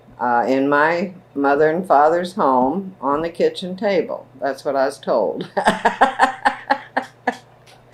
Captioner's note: laughs